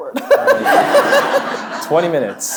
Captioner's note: audience laughing; laughing